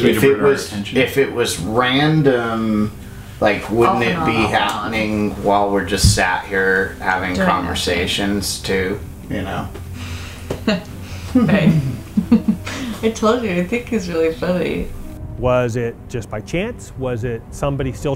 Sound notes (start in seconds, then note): 8.1 laughing